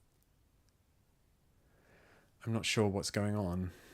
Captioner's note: silence